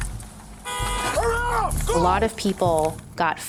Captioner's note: car horn honks